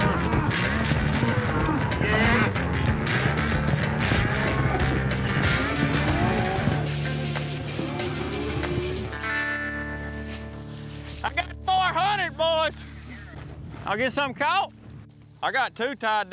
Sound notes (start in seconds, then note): 1.4 cows moo